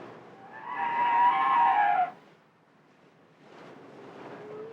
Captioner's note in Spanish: Sonidos de cetáceos